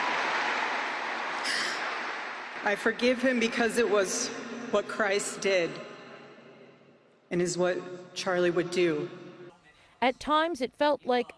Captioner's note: applause